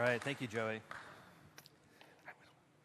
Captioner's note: applause